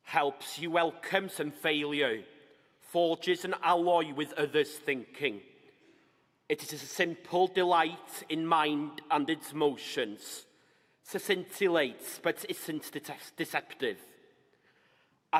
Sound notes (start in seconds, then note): none